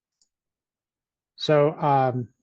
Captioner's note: mouse clicks